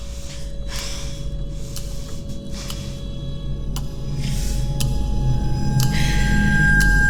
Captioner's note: Ally panting; ominous music